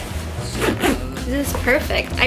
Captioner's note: zipping